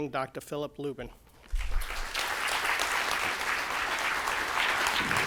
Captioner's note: applause